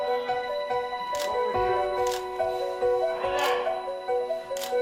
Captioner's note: camera shutter clicking